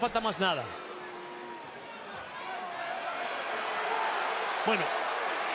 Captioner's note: applause